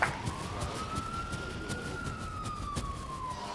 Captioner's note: siren whirling